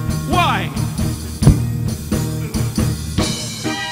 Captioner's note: Don thudding on mic; upbeat instrumental music